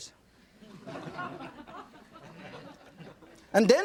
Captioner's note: audience laughing